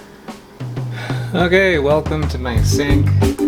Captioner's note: upbeat invigorating music; sighs; upbeat invigorating music continues